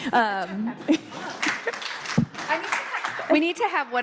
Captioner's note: audience clapping